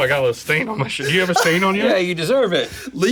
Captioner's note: laughs